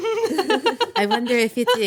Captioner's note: laughing